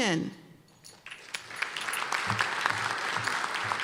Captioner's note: applause